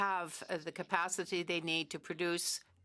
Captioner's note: speaking French